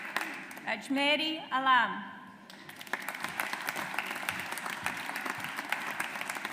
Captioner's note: audience applauds